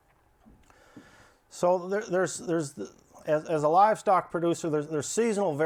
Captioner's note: stammers